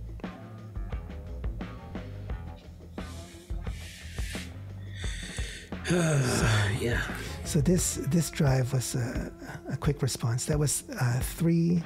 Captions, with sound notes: (sighs) - Yeah. - So this drive was a quick response. That was three...